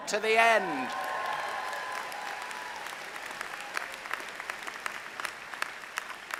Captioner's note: audience cheering; audience applauding